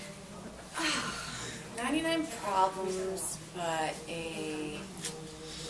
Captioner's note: laughs; sighs